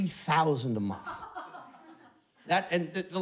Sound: laughter

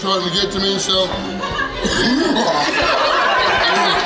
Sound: coughs; patrons laughing

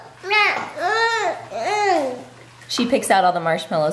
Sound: baby babbling

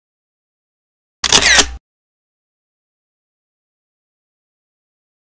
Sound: camera shutters

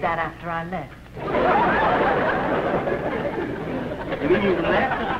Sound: laughter

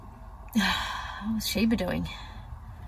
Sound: sighs

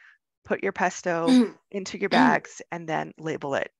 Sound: woman coughing

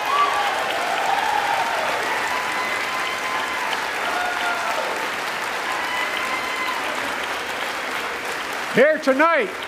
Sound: applause

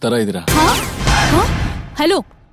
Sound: gasps

